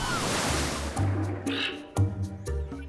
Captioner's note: squawks